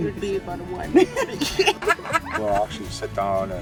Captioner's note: laughing